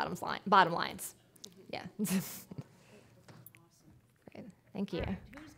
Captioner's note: chuckling